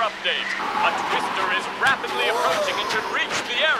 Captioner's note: gasps